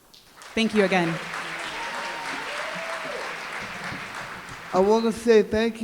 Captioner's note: applause; applause, cheering